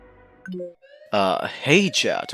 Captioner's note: roblox button.ogg